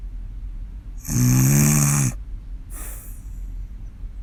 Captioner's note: snoring